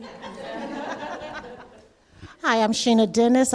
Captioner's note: audience laughing